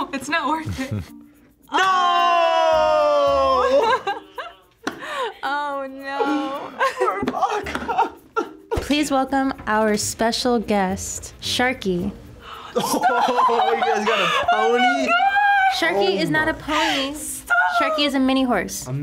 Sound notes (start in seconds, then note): 6.2 laughs; 8.2 cries